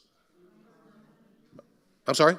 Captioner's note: audience murmuring